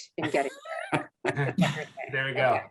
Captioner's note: laughing